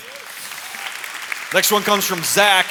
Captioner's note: applause